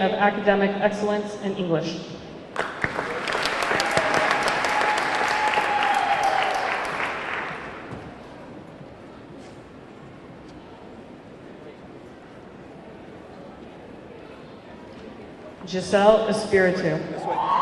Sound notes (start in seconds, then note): 2.5 audience clapping; 2.6 audience cheering